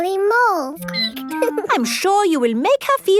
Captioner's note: squeaking